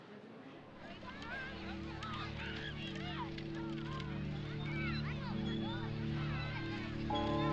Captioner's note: children laughing and chattering